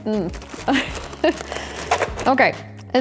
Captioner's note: laughs